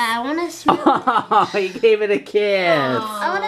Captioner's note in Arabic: يضحك